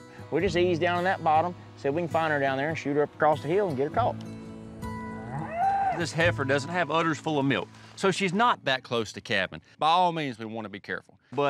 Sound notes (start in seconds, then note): 5.0 cow moos